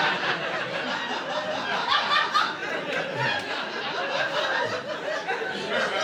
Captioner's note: audience laughing